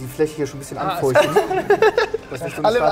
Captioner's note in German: Lachen